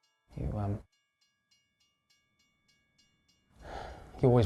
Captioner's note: sighs